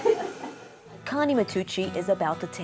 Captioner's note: light laughter